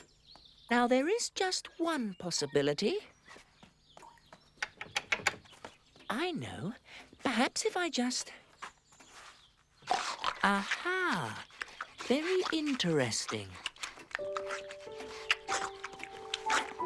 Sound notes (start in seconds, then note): 9.8 snuffling and snorting